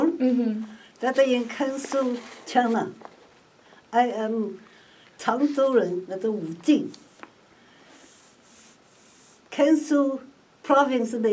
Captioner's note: speaks in Mandarin